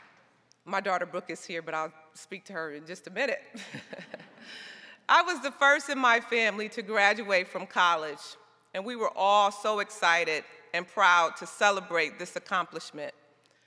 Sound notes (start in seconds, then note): 3.6 chuckles